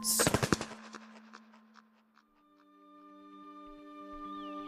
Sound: echoing Wingflaps SFX; reflective Threatened theme music begins

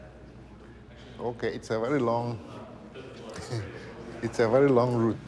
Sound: laughs

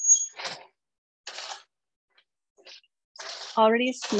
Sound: snacks stirring

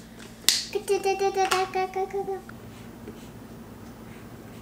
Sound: vocalizing

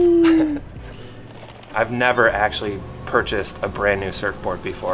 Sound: laughs

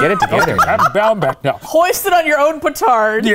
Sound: laughing

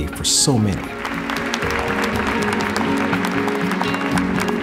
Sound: applause

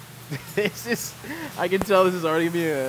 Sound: laughing

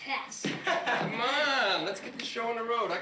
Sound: chuckling

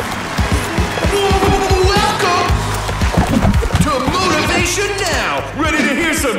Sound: audience applauding; intentional stuttering

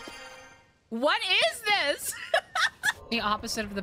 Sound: laughter

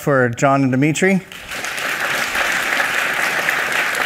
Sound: applause

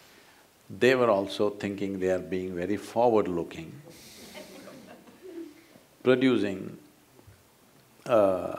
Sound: laughter

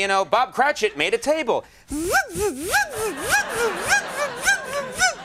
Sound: imitates saw

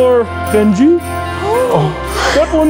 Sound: gasps

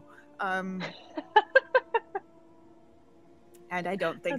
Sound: Deborah laughing

